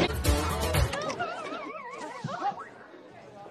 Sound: game ending sound

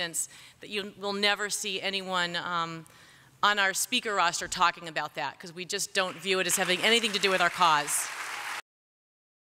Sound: applause

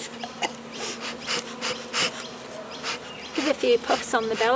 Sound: chuckles; coughs

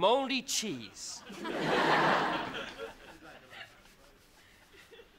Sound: crowd laughs

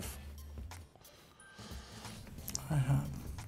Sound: sighs

